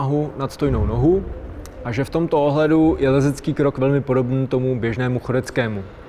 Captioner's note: walking